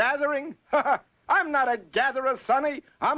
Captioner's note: laughs